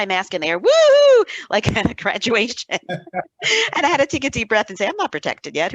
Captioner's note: both laughing